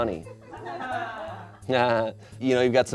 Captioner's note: audience laughing